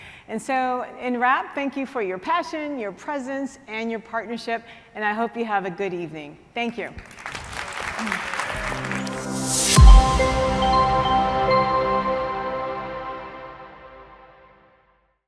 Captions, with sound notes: And so, in wrap, thank you for your passion, your presence, and your partnership, and I hope you have a good evening. Thank you. (audience applauding) (light music)